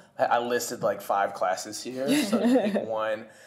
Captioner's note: laughter